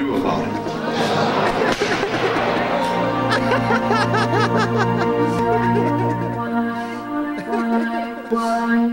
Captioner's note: laughs